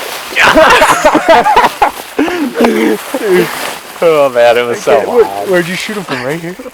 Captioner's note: celebratory noises